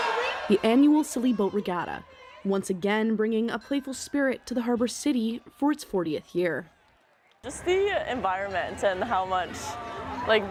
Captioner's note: cheering